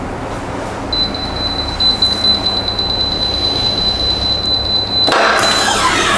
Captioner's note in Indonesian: suara beep